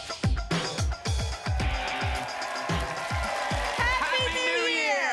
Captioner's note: applause and cheering